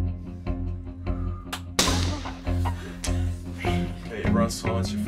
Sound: gunshot

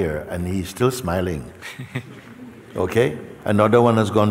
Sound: laughter

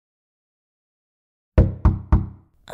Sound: knock! Knock! Knock!

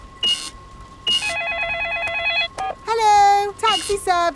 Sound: cash register beeping; beeps; cellphone ringing

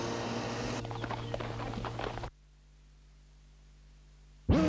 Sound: hooves clopping

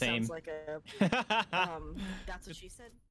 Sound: laughing

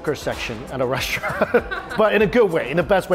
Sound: both laughing

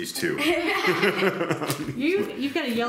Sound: everybody laughing

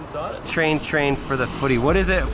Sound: voiceover

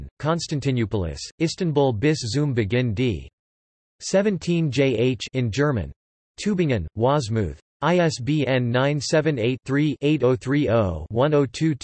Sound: in German

